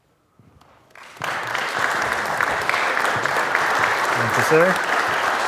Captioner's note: audience clapping